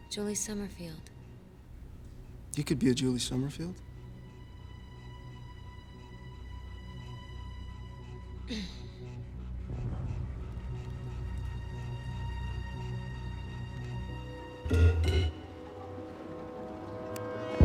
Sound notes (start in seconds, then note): 8.5 clears throat; 14.4 tense suspenseful music